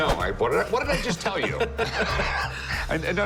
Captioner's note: laughter